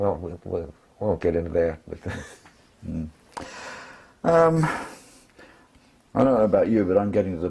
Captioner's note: laugh